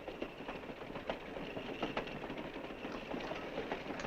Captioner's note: wheels clattering